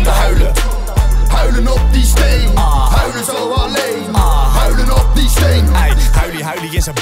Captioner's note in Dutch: aah